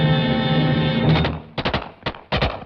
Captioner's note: gunfire